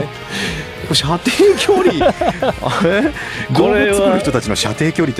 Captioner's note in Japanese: 笑い